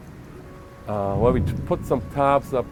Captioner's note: thunder